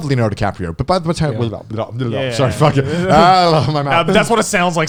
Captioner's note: speaking foreign language